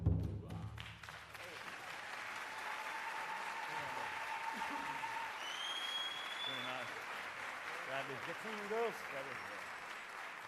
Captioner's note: applause